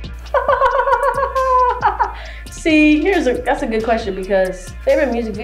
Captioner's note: laughs